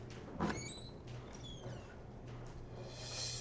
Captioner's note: door squeaks open